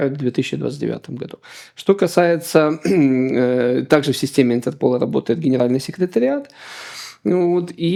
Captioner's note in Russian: откашливается